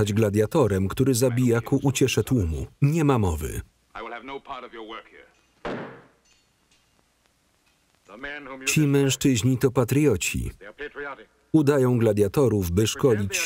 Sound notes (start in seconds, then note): 5.6 thudding